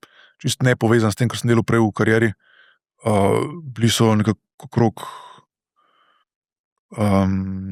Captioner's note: sigh